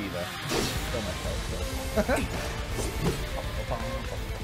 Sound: laughs

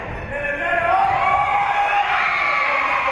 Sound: spectators shouting encouragements; spectators cheering; whistle being blown

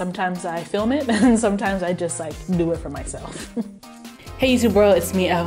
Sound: chuckles

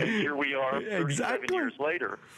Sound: laughter

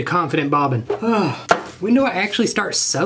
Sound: sigh

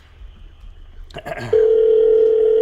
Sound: clears his throat; phone rings

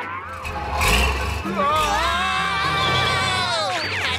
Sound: screaming

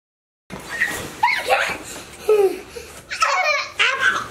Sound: squeals

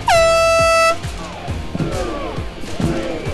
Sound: horn blows

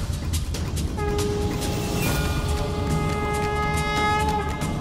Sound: conch blows

